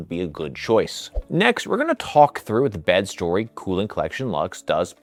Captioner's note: screen whooshing